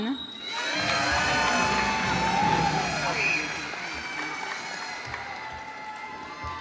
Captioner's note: cheers and applause